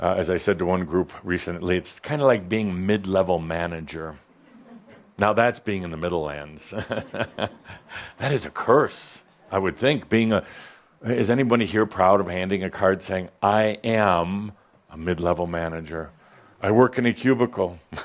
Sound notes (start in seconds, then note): 6.7 chuckles; 17.8 chuckles